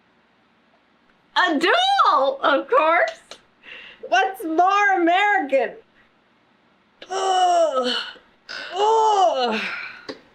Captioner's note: grunts